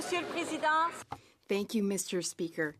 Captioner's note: speaking French